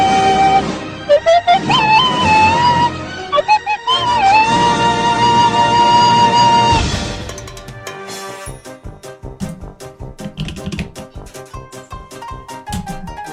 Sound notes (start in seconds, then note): 9.4 click; 10.2 typing intensifies